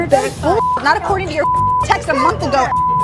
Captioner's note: beep